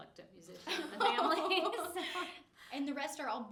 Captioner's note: all laughing